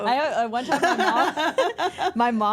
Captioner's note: laughs; everyone laughs